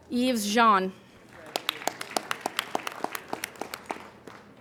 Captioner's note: applauding